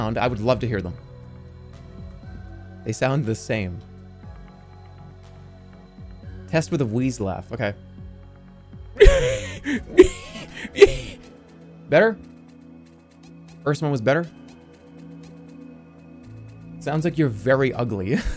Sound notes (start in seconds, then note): 9.0 wheezes; 9.0 wheezing